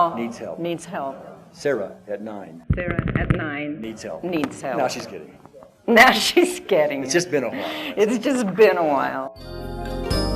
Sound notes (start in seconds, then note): 6.2 laughs